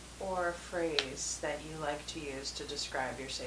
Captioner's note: click